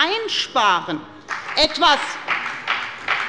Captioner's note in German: Beifall bei der FDP